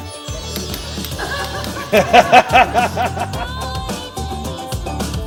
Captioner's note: all laughing